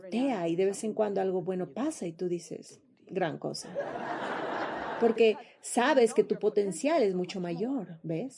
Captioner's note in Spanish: risas